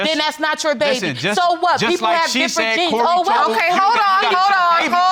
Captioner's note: both arguing